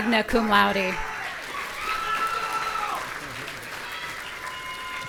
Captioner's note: audience cheering